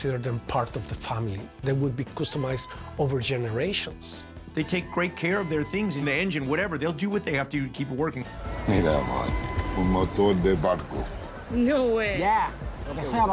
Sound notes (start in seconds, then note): 9.3 speaking spanish